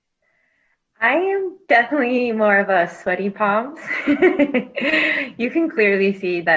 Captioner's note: laughs